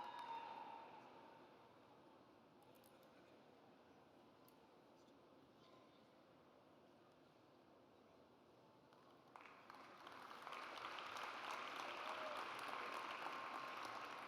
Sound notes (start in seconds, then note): 9.3 audience applauds